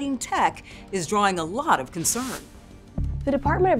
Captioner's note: graphics swishing; soft suspenseful music